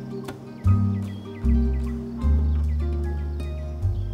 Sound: birds chirp

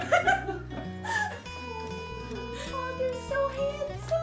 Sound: chuckles

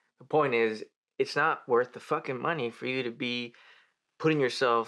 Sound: he inhales

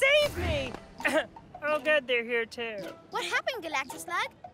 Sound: coughs

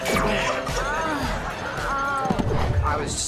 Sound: groaning

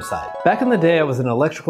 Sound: video clip twinkling

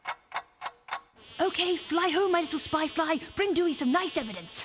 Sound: clock ticking; fly buzzing

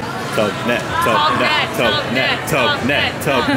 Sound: chants

